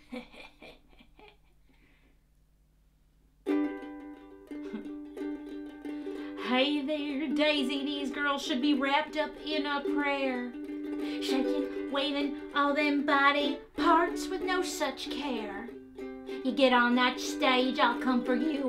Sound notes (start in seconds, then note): 0.0 laughing as Mama; 6.3 sung